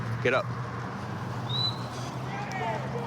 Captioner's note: whistle; indistinct shouting